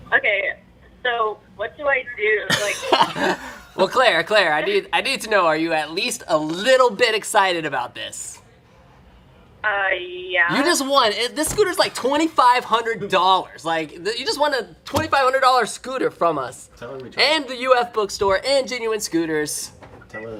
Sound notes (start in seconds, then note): 2.5 laughs